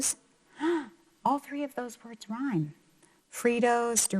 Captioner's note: gasps